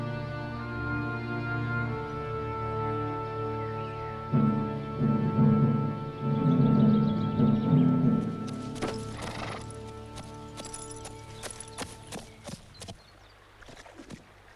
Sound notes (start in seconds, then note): 8.4 horse snorts